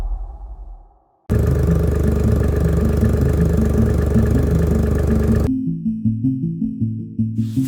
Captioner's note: engine rattling; mysterious music